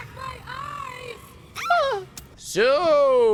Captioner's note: screams, jokingly